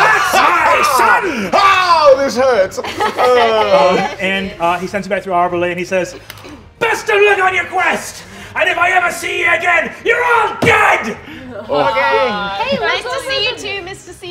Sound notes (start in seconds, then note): 2.6 all laughing